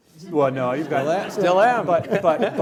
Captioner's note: laughing